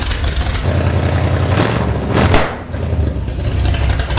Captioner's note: engine rumbling